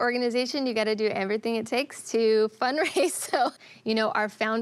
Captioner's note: laughs